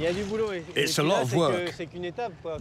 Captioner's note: speaking in foreign language